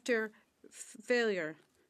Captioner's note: speaking French